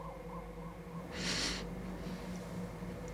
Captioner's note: sharp breath